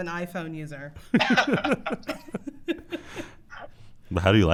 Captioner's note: laughter